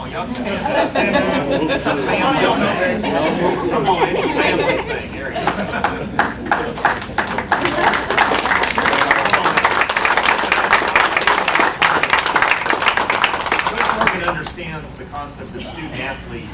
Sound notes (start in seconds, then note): 0.2 laughter; 1.9 applause